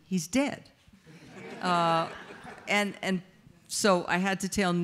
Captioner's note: audience laughs